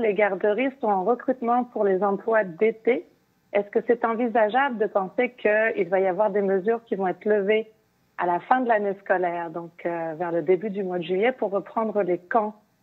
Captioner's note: speaking French